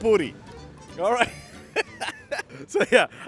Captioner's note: laughs